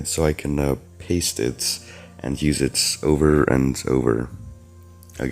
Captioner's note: breath